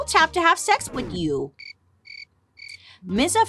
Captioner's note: insects chirping